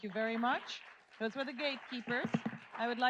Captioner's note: audience applauds